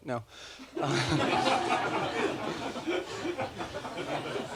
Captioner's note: laughter